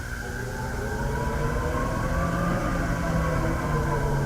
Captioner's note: wind howling